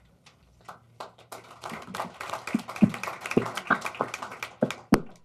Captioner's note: applause